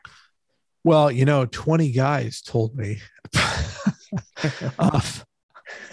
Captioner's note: both laugh